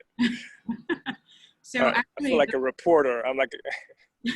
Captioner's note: laugh